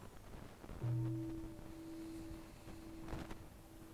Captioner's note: waking the bell - muted ring